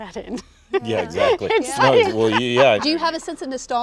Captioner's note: Winona laughing